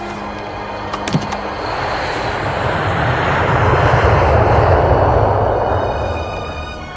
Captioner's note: airplane sound